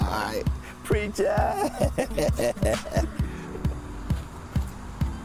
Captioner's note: laughs; upbeat music